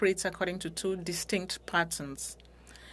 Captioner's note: speaking French